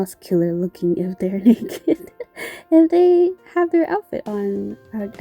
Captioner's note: laugh